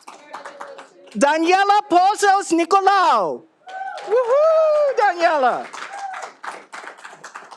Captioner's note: all applauding